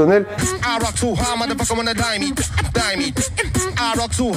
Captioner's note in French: beatbox